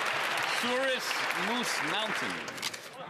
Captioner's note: some Applause